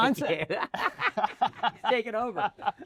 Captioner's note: laughter